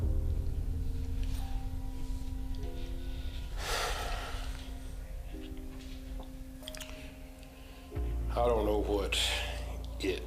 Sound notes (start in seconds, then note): 2.8 Joe sighing heavily